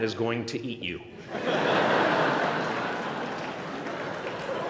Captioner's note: laughter